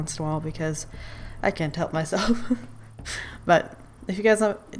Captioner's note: laughs